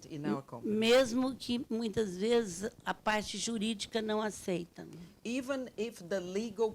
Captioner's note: speaking Portuguese